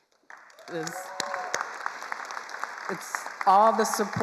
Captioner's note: attendees applauding